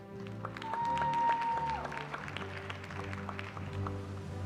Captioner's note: applause